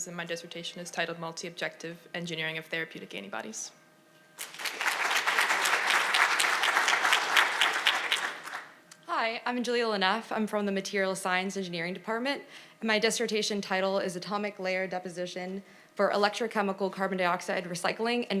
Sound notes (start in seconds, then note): 4.4 audience applauding